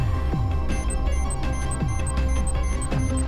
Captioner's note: signal Interruption